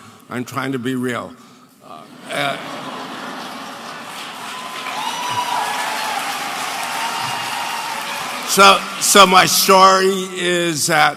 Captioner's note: audience applauding